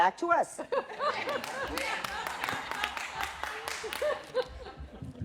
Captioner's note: laughter